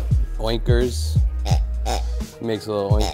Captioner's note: pig oinking